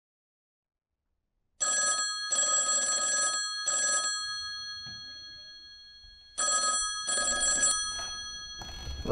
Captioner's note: phone ringing